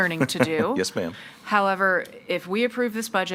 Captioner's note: laughs